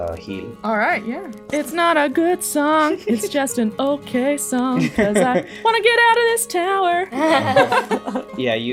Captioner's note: laughter